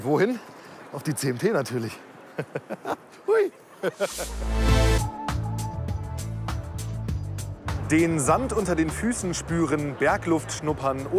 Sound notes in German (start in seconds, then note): 2.3 Lacht; 4.0 Dynamische Musik